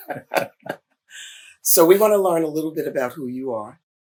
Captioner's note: laughter; laughs